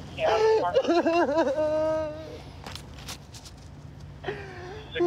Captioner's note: crying